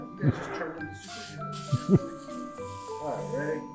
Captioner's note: aerosol can hisses